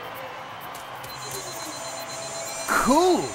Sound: beeping

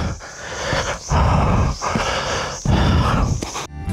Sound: deep Breathing

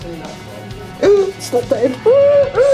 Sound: gasps

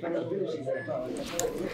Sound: machine beeping

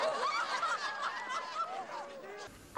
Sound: laughter

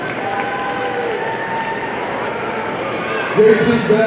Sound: audience applauding

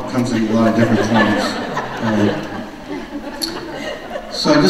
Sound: audience laughs

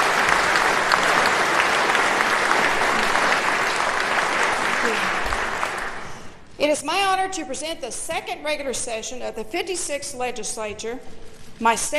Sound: applause

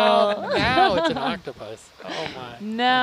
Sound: all laughing

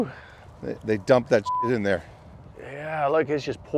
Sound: beep

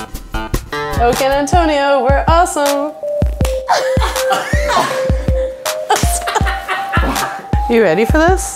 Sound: claps and laughs

